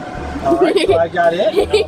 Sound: laughing

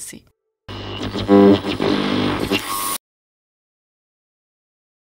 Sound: static sound

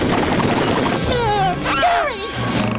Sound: meowing

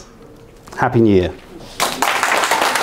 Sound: applauding

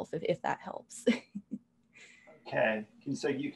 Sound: laugh

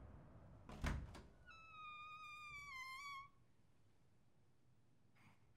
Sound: door creaking

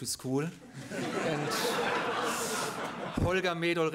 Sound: laughter

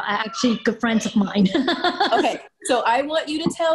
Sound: laughing

